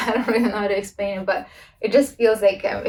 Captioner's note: laughs